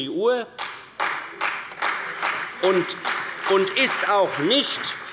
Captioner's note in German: Beifall bei Abgeordneten der CDU und des BÜNDNIS 90/DIE GRÜNEN